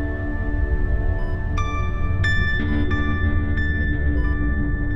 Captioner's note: machines beeping